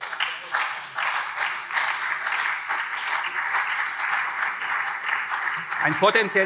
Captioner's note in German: Beifall CDU, SPD und vereinzelt BÜNDNIS 90/DIE GRÜNEN